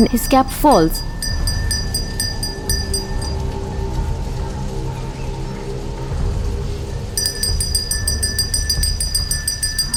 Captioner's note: sombre music; bell jingling; moves into intense bell jingling